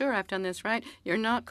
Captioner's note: speaking French